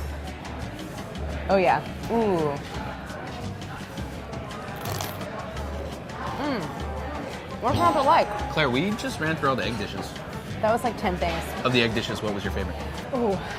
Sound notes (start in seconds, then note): 4.9 crunching; 7.7 bell dinging